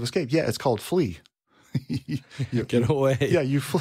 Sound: laughs

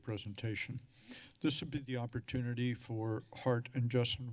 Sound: sigh

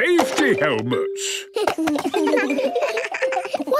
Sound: giggles

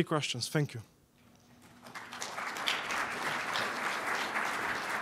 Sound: applause

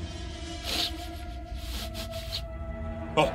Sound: Igor sniffing

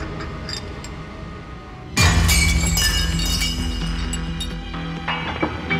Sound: glass shatters

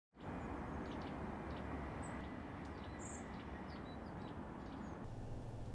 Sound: birds chirping

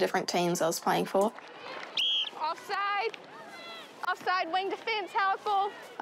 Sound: blows whistle

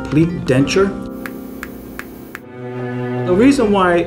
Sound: clicking

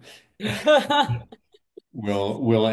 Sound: laughter

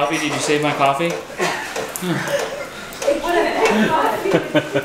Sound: laughter

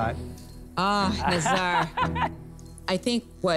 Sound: laughs

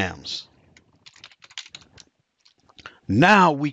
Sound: computer keyboard clicking

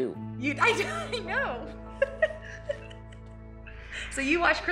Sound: laughs

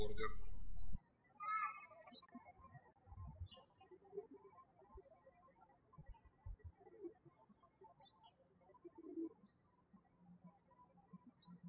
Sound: birds chirping

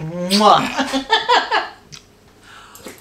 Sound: laughs

